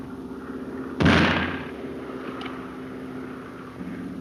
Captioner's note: gun firing